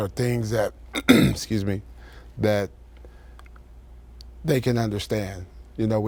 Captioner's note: clears throat